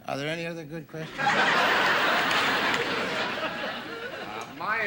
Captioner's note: audience laughing